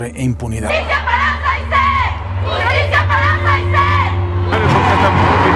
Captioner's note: feminists shouting for justice for girl's murder